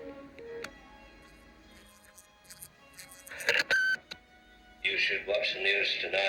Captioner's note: machine rewinding, beeps